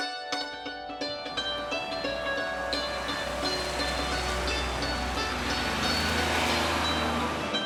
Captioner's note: vehicle whooshing; gentle atmospheric music; truck whooshing